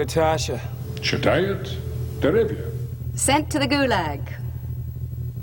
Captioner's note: speaking in foreign language